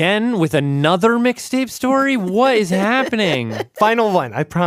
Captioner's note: laughs